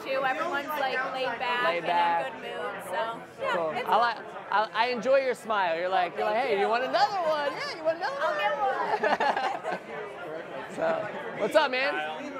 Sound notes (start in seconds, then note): 8.5 all laughing